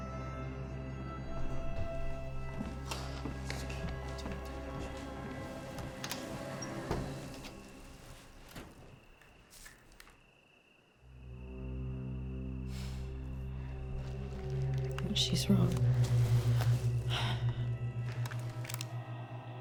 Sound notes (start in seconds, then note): 0.0 tense music; 6.3 door clicks; 8.7 door thuds; 11.0 ominous music